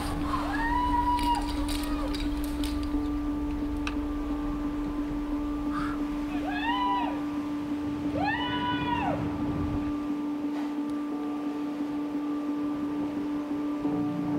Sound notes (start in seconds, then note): 0.2 cheers; 6.4 continues cheering; 10.1 upbeat music playing